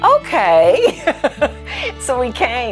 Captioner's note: laughs